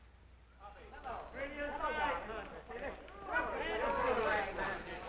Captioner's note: employees chattering